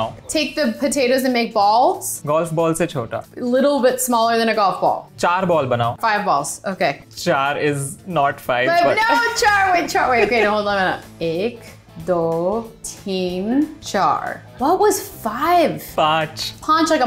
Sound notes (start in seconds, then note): 0.0 speaking in Hindi; 2.3 speaking in Hindi; 5.0 speaking in Hindi; 11.3 speaking in Hindi